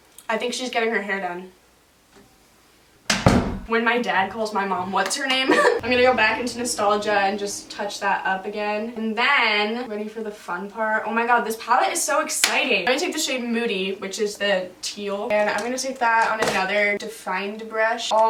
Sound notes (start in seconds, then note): 3.1 door closes